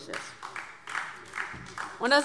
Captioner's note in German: Beifall DIE LINKE